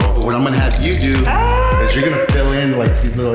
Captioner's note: woman screaming